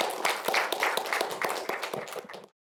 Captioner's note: applause